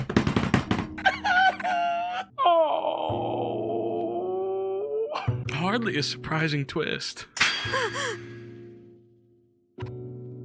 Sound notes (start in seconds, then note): 0.0 Skull bangs on his desk and laughs; 7.8 gasps